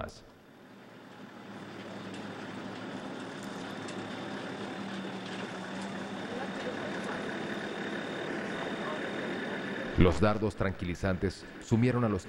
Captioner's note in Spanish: sonido automotor